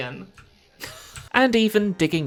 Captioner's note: laughter